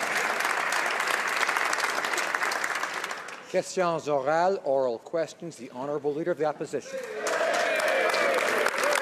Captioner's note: some Applause